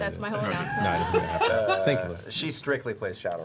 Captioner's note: laughter